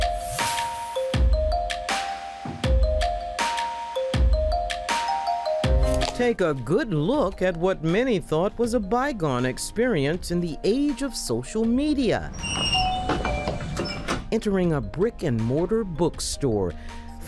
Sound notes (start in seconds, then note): 0.1 upbeat music; 12.1 door creaks; 12.5 doorbell dings